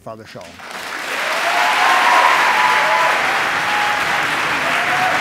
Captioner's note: audience cheers